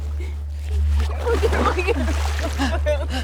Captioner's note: sobs; water splashing